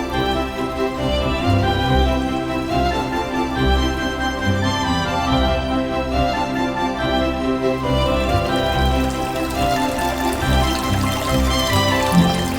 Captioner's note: water splashing